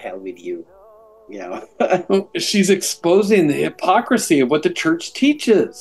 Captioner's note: chuckles